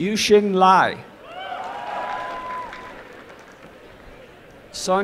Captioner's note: applause and cheering